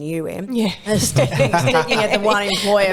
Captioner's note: laughing